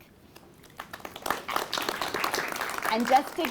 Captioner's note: applause